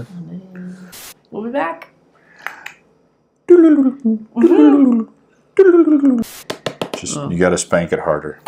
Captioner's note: teleporter noises